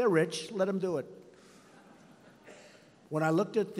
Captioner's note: laughter